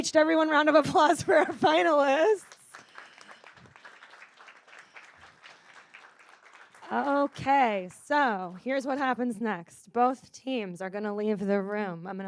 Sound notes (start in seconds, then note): 2.4 audience applauds